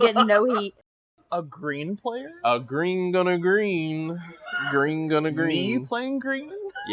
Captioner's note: random background squawk